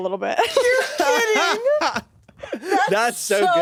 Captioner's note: everyone laughs